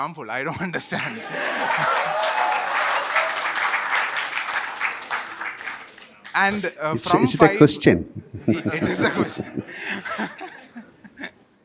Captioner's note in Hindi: तालियाँ